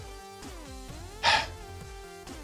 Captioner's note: sighs